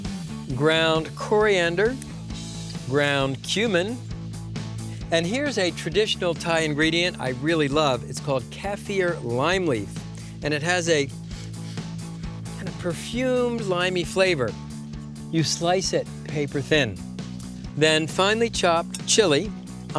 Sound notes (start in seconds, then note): 11.1 sniffing